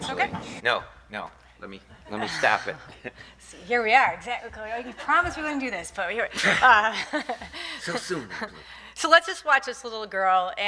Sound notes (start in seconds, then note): 2.1 laughing; 7.3 laughing